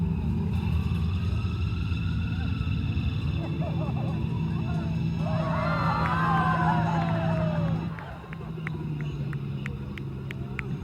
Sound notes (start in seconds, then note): 0.2 police sirens; 2.2 helicopter